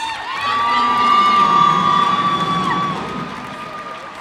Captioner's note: cheers and applause